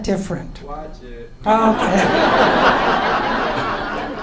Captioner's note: laughs